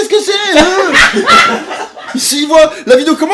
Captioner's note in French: rires